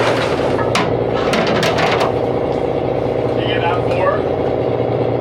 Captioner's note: metal clanking